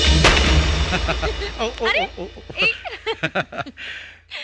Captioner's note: laughing